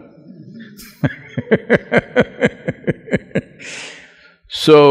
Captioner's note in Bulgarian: Смях